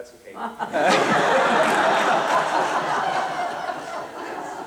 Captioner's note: laughter